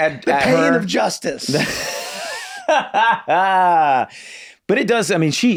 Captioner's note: Glenn laughs